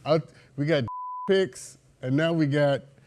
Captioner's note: beep